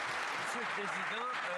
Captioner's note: some Applause